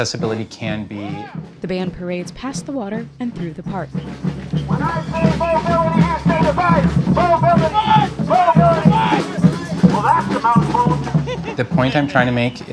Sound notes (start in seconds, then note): 2.4 energetic rhythms on drums only; 5.6 through megaphone